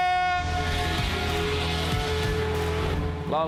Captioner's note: engines revving